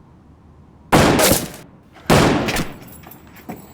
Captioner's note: gun fires